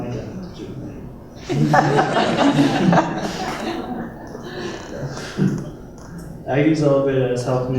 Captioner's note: laughter